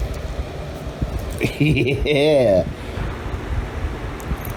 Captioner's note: Ella laughs